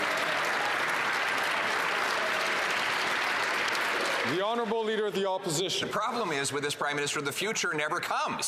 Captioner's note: some Applause